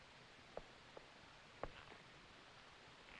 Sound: none

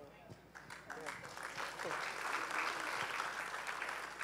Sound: applause

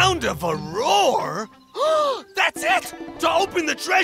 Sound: gasping

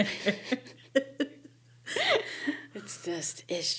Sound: laughing

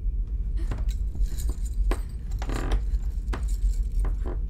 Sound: creaking & Jingling

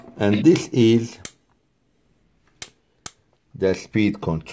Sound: switch clicking

